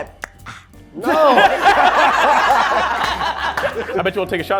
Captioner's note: laughing